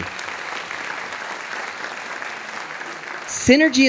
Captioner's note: audience applauding